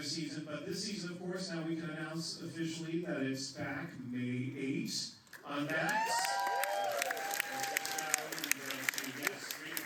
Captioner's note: applause